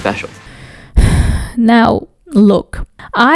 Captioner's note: sighs